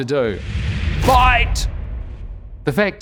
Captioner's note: cartoon rumbling